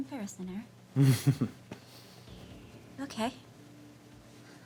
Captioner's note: chuckles